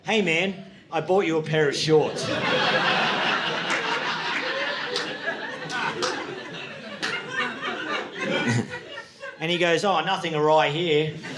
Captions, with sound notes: "Hey man, I bought you a pair of shorts." (audience laughing) (audience laughing) And he goes, "Oh, nothing awry here.